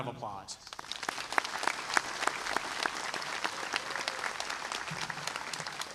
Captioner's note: applause